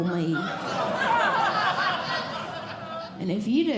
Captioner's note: audience Laughing